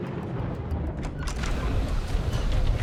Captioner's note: booming